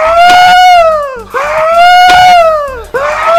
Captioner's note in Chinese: os：發出豬叫